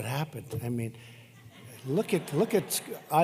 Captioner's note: laughter